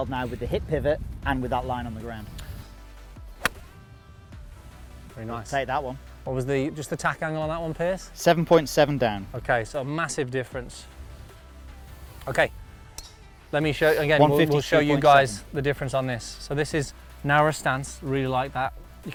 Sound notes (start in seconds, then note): 3.3 golf club hitting ball